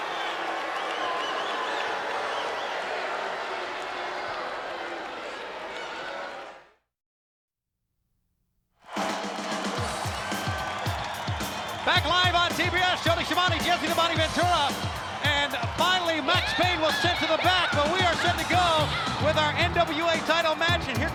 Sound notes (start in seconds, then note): 0.0 spectators cheering; 8.8 spectators cheering; 8.8 upbeat music